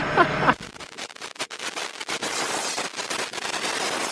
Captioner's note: laughs; sizzling